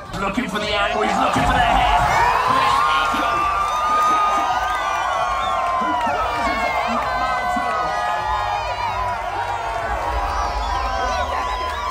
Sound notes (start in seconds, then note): 2.1 crowd cheering; 6.5 people shouting indistinct